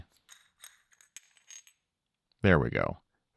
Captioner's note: metal clinking